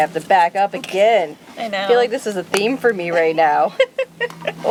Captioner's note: laugh